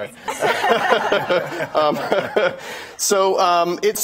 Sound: laughing

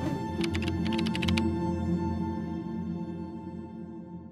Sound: keys clicking

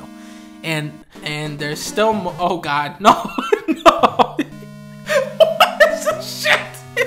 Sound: laughing

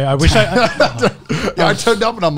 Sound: laughing

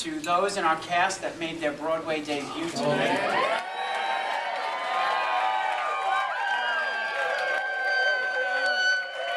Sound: cheering

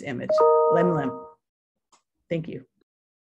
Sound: non-english speech

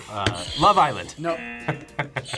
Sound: buzzer rings; buzzer; laughs

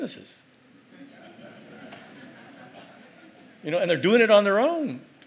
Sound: laugh

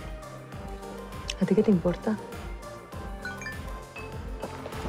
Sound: phone

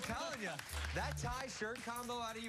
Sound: cheers and applause

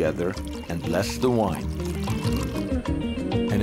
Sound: pouring sound; upbeat music

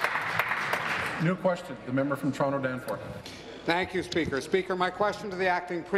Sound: applause

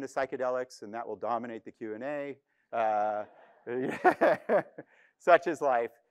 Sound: laughs

